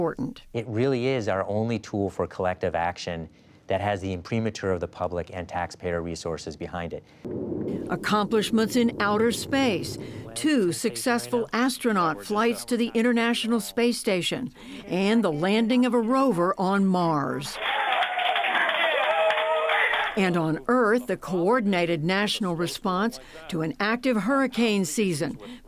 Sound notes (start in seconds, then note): 17.5 cheering and applause